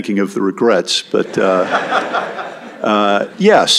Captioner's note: laughter